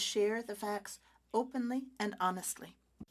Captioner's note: speaking French